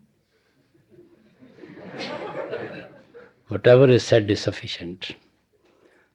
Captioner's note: laughter